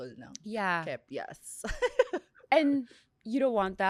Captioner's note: laughs